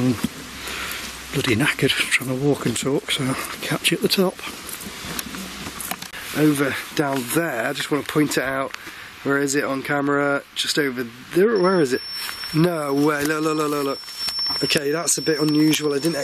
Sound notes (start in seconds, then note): 11.4 alarm ringing